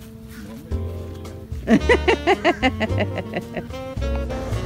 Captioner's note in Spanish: risos